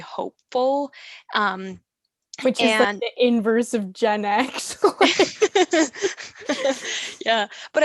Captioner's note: laughs like a dork